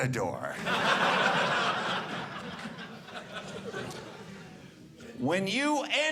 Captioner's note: audience laughing